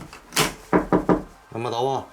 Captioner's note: knocking